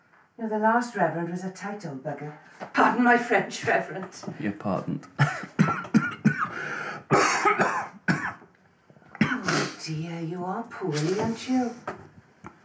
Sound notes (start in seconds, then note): 4.9 coughing